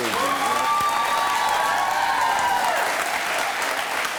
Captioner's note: audience cheering